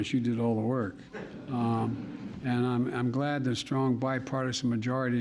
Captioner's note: laughter